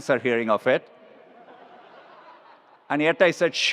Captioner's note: attendees laughs